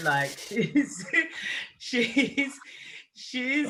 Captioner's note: laughing